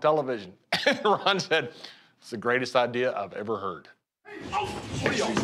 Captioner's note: laugh